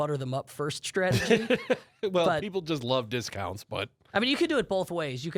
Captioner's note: laughs